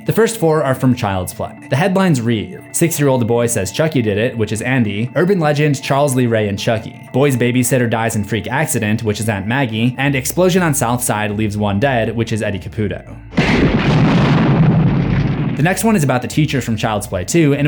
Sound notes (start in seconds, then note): 13.2 house explodes; 13.3 gun fires